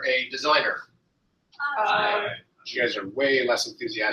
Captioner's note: multiple voices